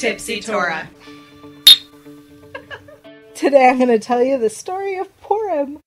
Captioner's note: glasses Clink